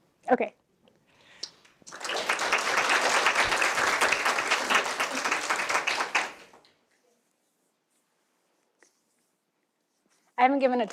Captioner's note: applause